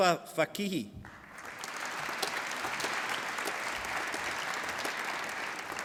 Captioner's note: applause